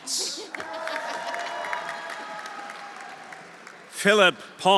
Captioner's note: audience applauding; audience cheering